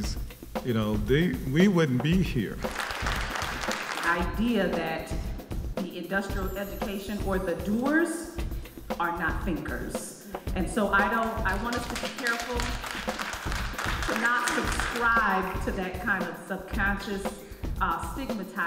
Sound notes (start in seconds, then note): 2.6 applause